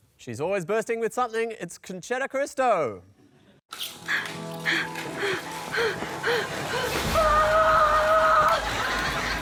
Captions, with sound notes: She's always bursting with something. It's Concetta Caristo. (PANTING)